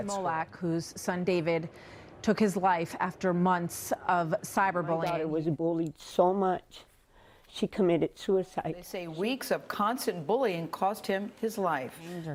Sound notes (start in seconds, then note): none